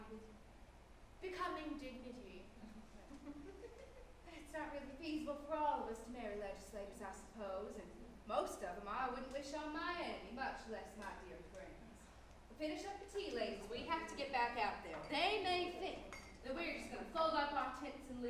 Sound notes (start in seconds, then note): 2.6 women chuckle